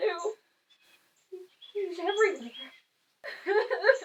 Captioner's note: crying